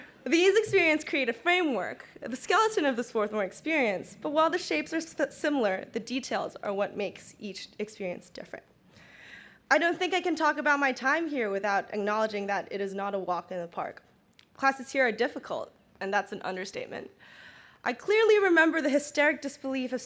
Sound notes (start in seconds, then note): none